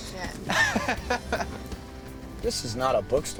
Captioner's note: Robert laughs